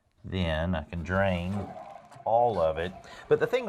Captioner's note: flushing